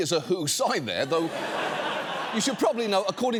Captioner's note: audience laughing